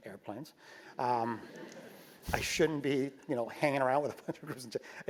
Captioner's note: laugh